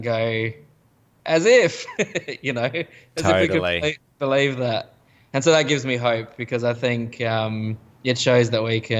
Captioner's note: laughs